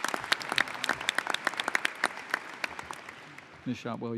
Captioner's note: applause